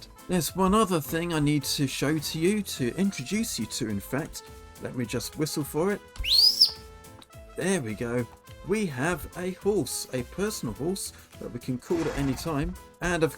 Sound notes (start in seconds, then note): 6.2 whistle